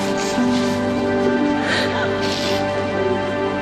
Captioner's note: sniffles, sobs